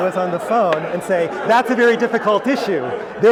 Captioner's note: laugh